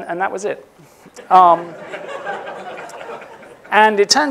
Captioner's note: laughter